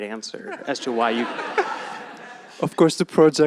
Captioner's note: laughter